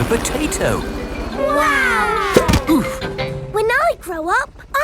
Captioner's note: crowd